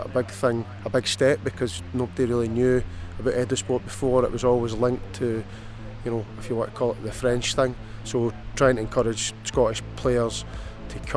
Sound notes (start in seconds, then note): none